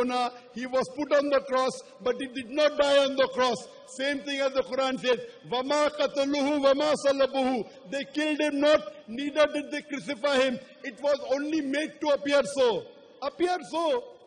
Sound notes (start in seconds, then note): 4.4 arabic phrase